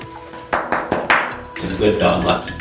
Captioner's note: patting